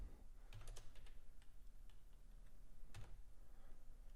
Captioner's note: typing